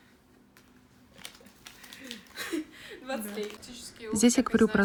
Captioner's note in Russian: смех